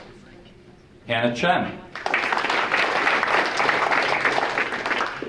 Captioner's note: audience applauding